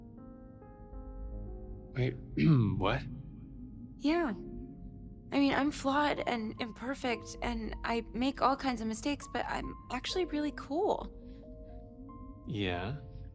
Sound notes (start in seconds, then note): 2.4 clears throat